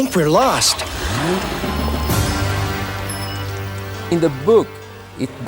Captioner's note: engine revving; lively music